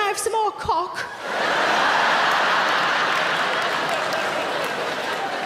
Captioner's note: audience laughing